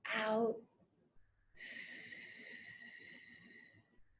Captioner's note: exhales